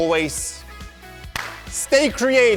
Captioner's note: clap